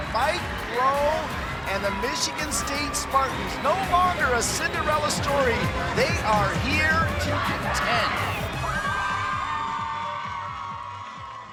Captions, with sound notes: Mike Rowe and the Michigan State Spartans no longer a Cinderella story. They are here to ten. (team cheering)